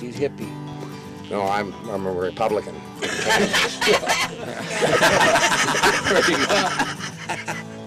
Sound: laughter

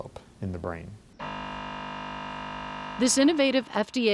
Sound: machine buzzing

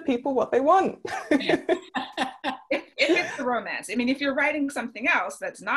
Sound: laughing

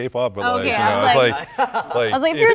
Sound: group chatter

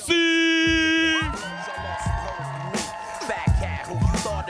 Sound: audience cheering

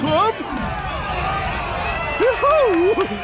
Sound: chattering

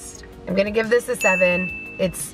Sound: dings

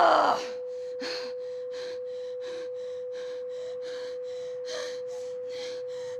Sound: continues breathing heavily

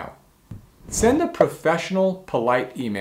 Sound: bubble popping

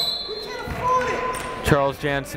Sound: whistle blowing

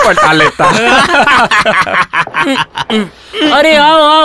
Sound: laughs

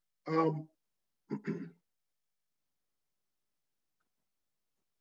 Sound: clears throat

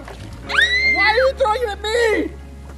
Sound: screams

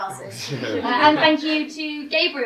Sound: all laugh

